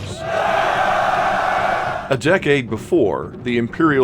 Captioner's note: soldiers cheering